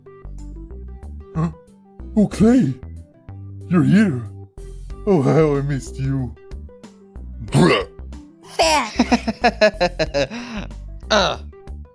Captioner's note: laughs but also gets spit on